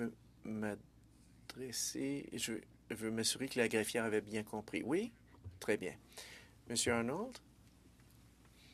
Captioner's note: speaking French